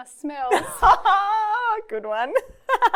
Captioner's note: laughing